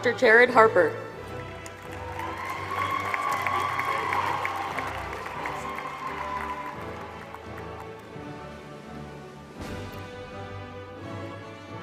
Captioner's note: applause